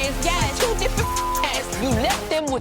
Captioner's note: beeping